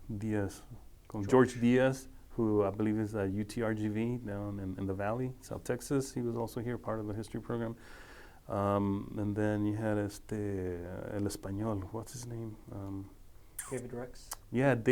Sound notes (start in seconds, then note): 10.0 speaking foreign language